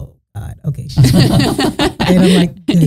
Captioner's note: both laughing